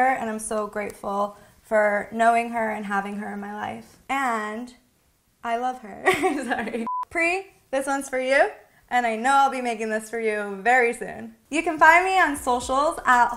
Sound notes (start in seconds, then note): 5.6 laughs; 6.8 screen beeping; 12.7 upbeat music